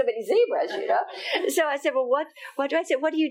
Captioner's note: attendees laughing